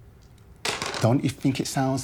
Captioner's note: dice clattering